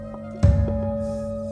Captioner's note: gong